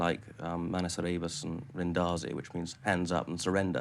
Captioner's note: speaking in foreign language